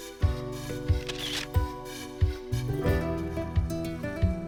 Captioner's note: camera snaps